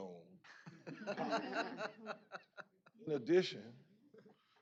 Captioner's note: laughing